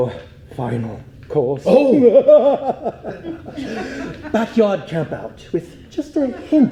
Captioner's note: laughs